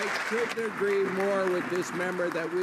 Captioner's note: some Applause